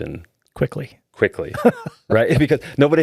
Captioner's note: laughing